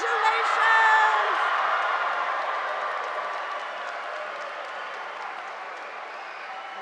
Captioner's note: audience applauding; students cheering